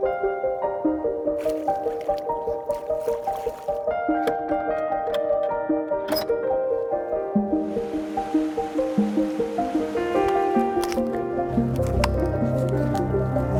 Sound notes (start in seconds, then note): 1.4 water splashes; 1.6 fish flapping; 4.0 key clacking; 6.0 door creeks; 7.6 water sloshing; 10.5 ax tapping